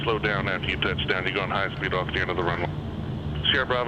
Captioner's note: radio